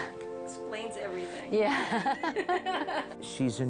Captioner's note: laughing